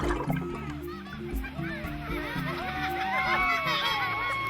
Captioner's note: children laugh